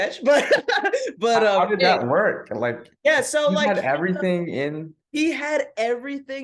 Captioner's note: laughs